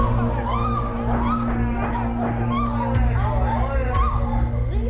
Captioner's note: crowd screaming